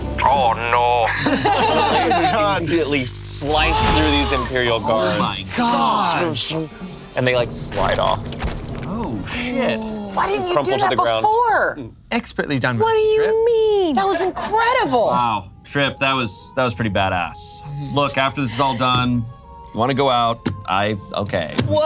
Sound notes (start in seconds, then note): 0.2 group laughs